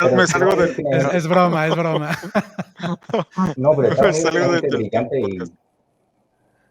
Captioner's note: laughs